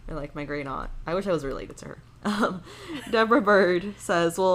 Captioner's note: chuckles